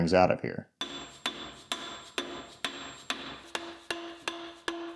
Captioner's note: hammer smacking